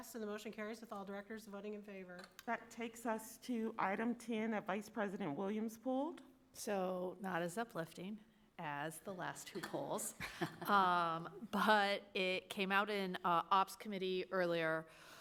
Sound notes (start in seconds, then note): 10.1 chuckles softly